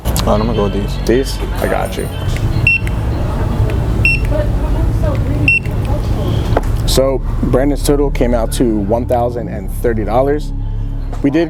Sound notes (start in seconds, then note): 2.1 scanner beeping